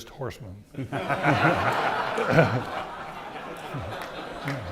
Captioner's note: audience laughing